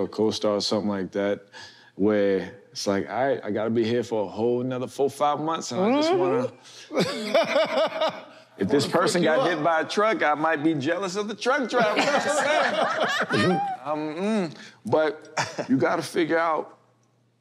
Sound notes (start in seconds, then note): 6.9 laughs